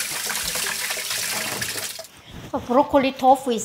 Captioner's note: water running